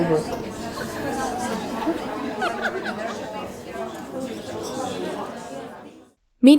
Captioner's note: both laugh; people chattering